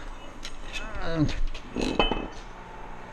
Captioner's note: grunting